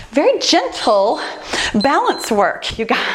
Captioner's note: timer beeps